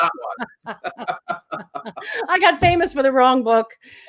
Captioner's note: laughing